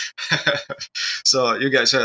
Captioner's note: laughs